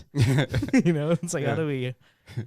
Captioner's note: laughing